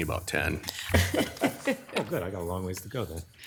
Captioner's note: group laughing